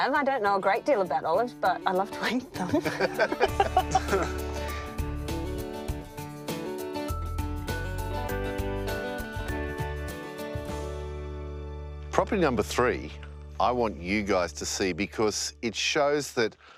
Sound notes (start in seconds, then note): 2.7 everyone laughs; 4.6 light music